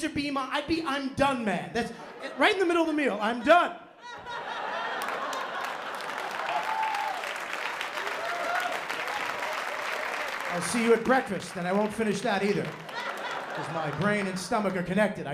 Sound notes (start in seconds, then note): 3.0 laughter; 4.8 applause; 12.4 laughter